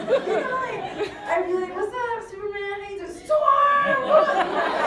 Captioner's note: laugh; crowd laughs